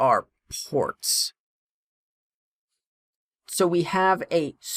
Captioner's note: no audio